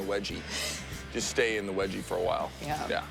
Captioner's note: chuckles